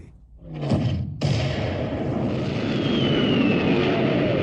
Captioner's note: explosions booming